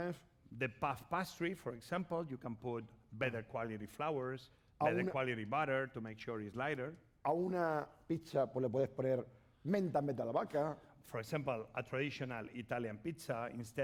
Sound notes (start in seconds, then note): 7.9 speaking spanish